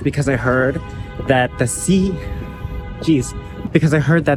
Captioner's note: car horn blaring